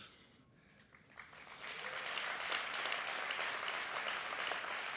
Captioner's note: applause